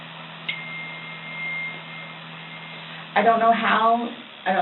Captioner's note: cell phone dings